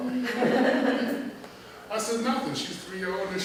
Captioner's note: laughter